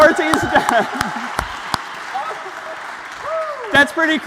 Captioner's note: applause